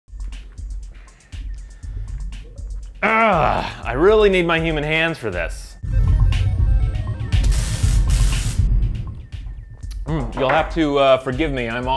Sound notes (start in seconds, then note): 0.9 digital music; 5.9 digital beeps